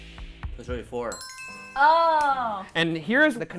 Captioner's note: bell chiming